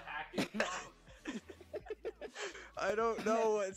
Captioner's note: giggling